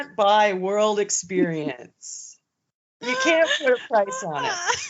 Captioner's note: both laughing